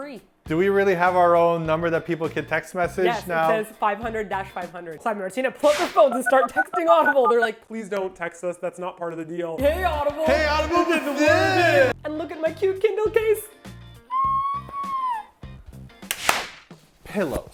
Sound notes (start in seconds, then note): 14.1 screech of joy; 16.0 slap